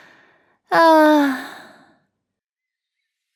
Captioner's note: sighs